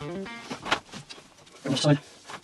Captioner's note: groovy guitar music; rope rustling